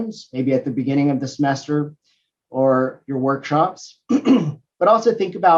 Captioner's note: cough